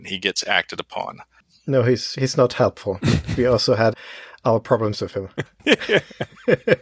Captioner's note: laughs